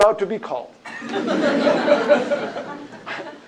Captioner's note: laughter